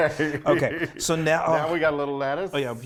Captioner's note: laughs